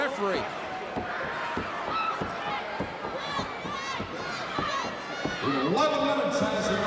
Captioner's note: crowd cheering